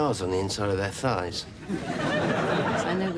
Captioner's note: audience laughs